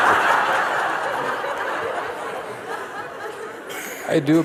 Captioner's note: Lachen